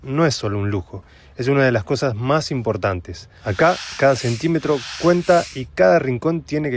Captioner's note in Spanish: resoplido